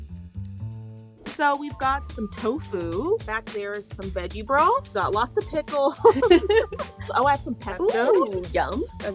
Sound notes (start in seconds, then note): 6.0 both laugh